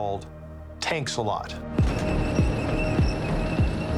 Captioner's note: tank whirring